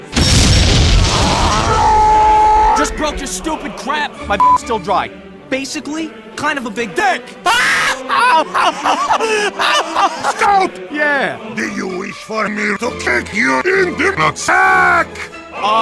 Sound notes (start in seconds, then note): 7.4 laughs